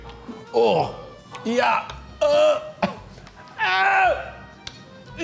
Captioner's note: groans in disgust